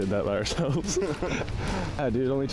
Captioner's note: laughing